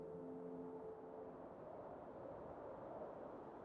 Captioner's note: wind howling